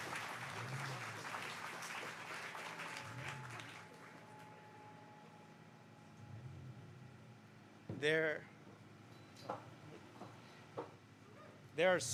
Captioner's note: applause